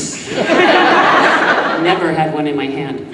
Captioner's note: audience laughing